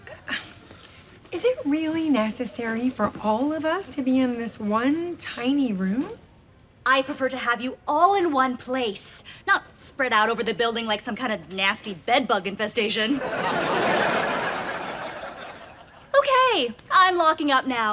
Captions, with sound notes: - Is it really necessary for all of us to be in this one tiny room? - I prefer to have you all in once place, not spread out all over the building like some kind of nasty bed bug infestation. (laughs) Okay, I'm locking up now,